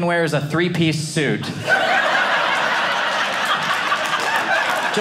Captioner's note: audience laughing